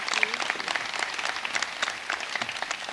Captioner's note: applause